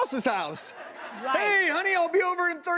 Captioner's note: audience laughs